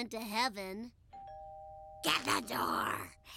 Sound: doorbell rings; gravelly voice

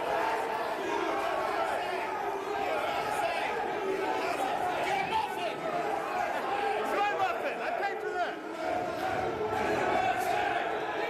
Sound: yelling

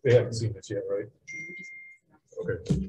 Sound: woman mumbling

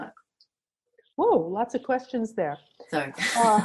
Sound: laughs

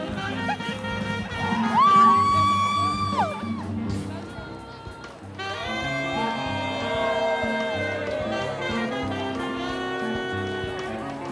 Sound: applause

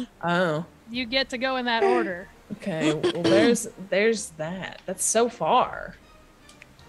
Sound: laugh

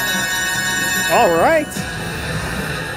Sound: bell ringing

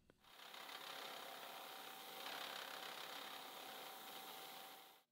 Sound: milling machine whirring

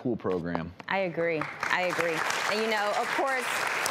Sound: audience applauding

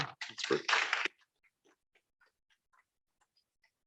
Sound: applause

